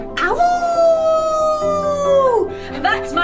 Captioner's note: dog howling